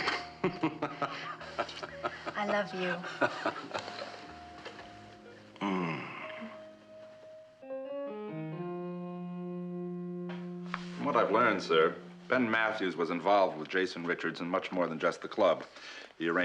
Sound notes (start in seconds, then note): 0.0 kıkırdama